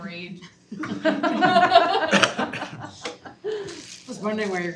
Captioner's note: students laugh